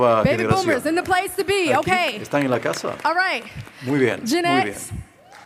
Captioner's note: applause